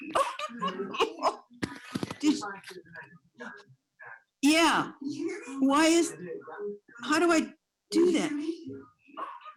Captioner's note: laughter